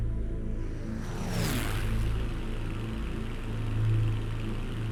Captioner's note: engine revving